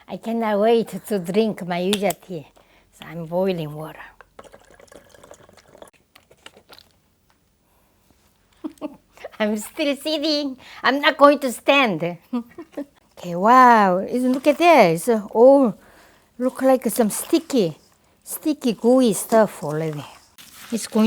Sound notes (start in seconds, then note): 12.2 laugh